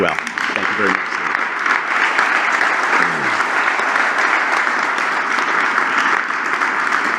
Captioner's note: applause